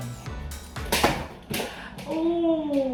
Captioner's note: rope hits object